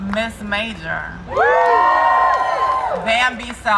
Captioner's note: crowd cheering